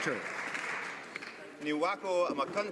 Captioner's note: some Applause